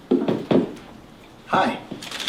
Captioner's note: knuckles tapping